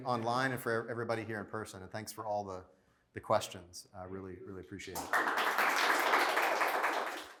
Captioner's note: applause